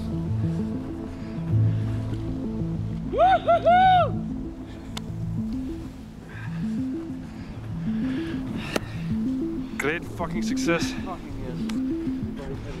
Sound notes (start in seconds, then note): 3.1 whoops